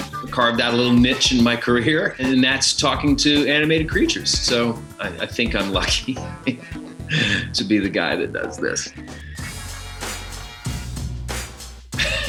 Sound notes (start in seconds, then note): 6.0 laughs; 9.3 upbeat music; 12.0 laughs